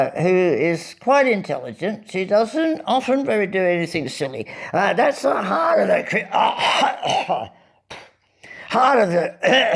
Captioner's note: spits, with gusto